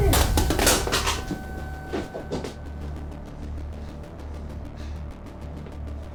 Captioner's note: guns clattering; tense music